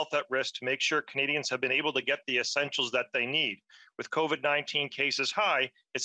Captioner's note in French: voix de l'interprète